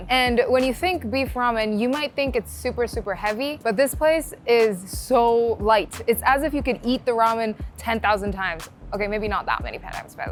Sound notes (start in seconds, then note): none